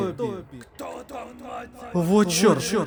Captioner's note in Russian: Мужской голос издалека